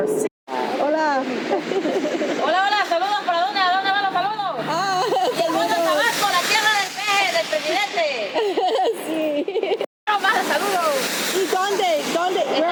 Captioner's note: laughter and Spanish conversation